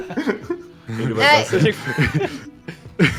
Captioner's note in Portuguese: Risadas